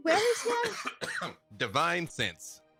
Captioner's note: Freely coughs